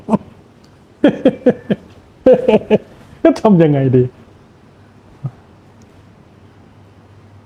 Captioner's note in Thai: เสียงหัวเราะ